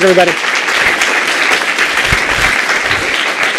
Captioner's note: applause